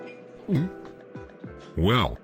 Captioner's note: gulp